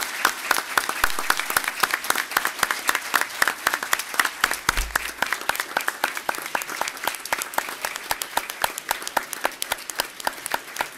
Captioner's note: applause